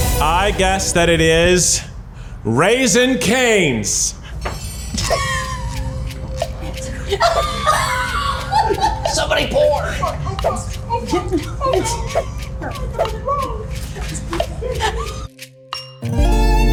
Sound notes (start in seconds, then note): 0.0 suspenseful music fades; 4.7 clock ticking; 4.7 crew laughing